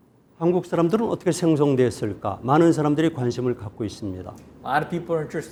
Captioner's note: speaking in Korean